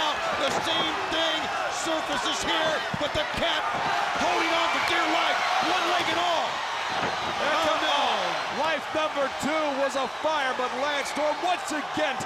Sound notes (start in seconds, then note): 7.8 crowd cheering